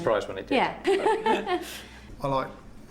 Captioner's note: woman laughs